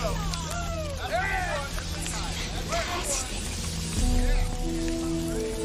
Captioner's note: all cheering